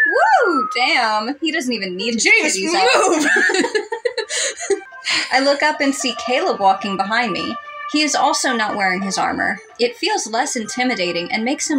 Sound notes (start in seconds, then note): 2.7 both Laugh